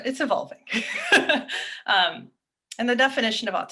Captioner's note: chuckles